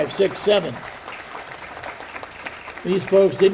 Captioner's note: audience applauding